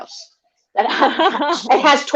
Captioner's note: laughs